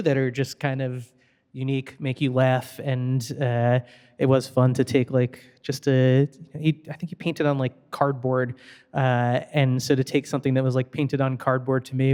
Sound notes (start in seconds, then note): none